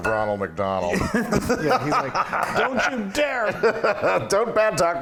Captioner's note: laugh